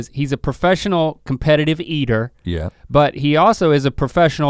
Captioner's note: none